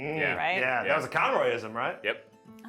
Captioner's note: group concurs